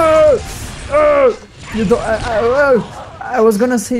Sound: grunts

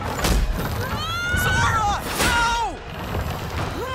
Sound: Sora screams

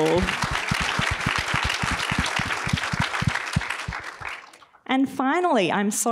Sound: applause

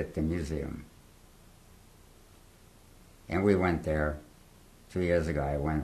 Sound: pauses for 3 seconds

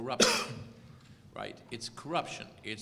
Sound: cough

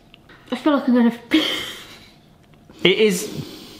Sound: laughs

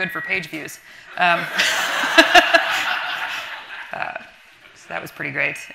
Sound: everyone laughing

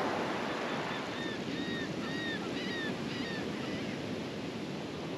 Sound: laughing Gull calling

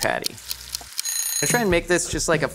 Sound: timer Ticking; timer Ringing

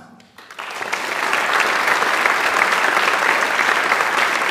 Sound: audience applauds

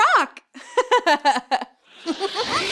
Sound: girl giggles; star giggles

